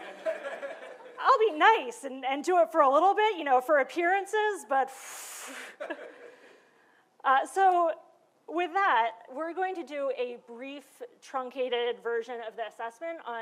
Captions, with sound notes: (laughter) I'll be nice and do it for a little bit, you know, for appearances, but (blowing) (laughter) So with that, we're going to do a brief truncated version of this assessment